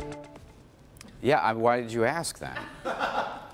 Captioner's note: laughter